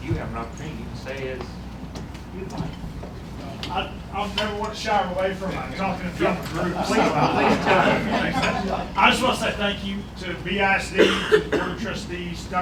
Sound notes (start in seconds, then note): 4.4 laughter